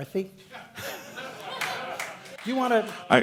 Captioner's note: crowd laughter